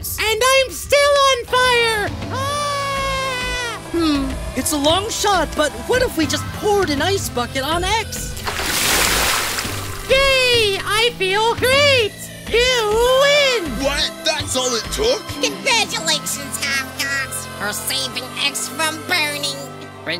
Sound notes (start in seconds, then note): 8.2 water splashing sound